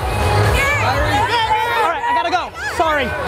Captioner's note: crowd yelling